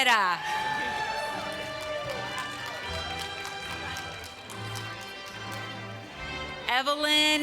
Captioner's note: applause